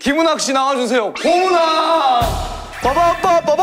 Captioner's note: howling